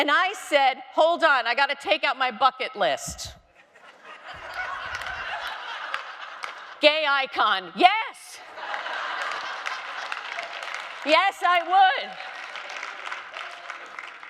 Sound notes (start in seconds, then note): 3.5 audience laughing